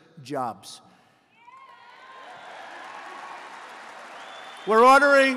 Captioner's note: applause